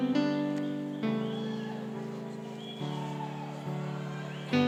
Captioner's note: cheering